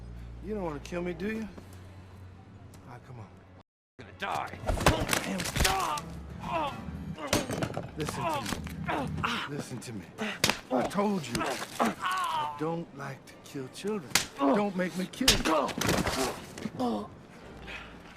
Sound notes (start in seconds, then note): 4.7 bones breaking; 5.5 man screaming; 9.8 hand smacking; 11.3 bones breaking; 14.1 hand smacking; 16.7 man grunting